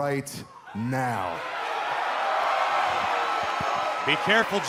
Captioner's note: cheers and applause